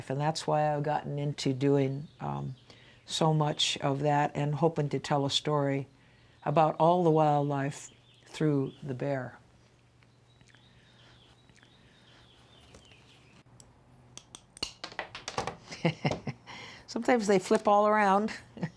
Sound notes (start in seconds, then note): 10.5 birds chirping; 10.5 snips clicking; 14.6 tile clattering; 15.6 laughs